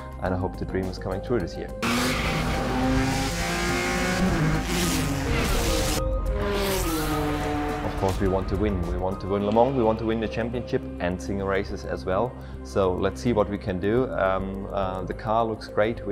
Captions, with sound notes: And I hope to dreams coming true this year. (car engines) Of course we want to win and we want to win Le Mans. We want to win the championship and the races as well. So let's see what we can do. Um, uh, the car looks great.